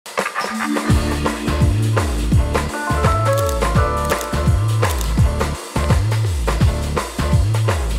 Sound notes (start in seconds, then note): 0.2 upbeat music; 4.0 camera clicking